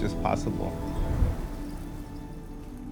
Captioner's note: wind whooshing